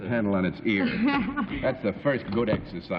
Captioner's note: laughs